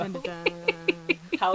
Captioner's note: laughs